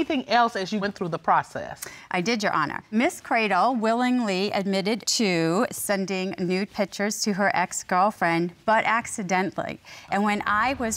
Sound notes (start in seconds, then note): none